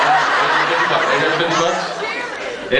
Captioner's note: laughs